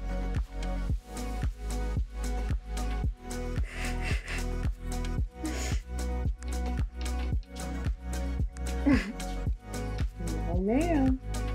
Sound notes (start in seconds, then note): 3.8 laughter; 8.8 laughs